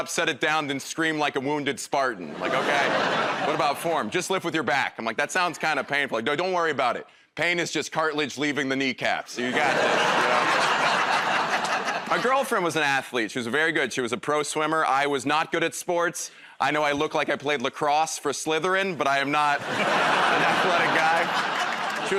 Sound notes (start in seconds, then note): 9.4 laughter